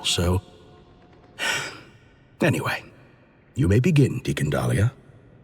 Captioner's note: sigh